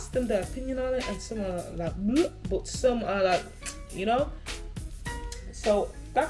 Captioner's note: kisses